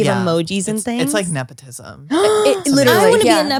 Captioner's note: gasps